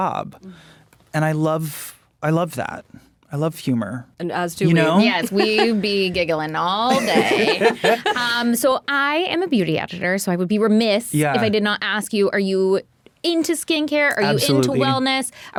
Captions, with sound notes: and I love, I love that. I love humor. - As do we. - You know. - Yes, we be giggling all day. [all laughing] So I am a beauty editor so I would be remiss- - Yeah. - If I did not ask you, are you into skincare? - Absolutely. - Are you into wellness?